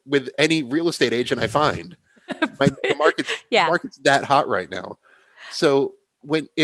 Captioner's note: laughs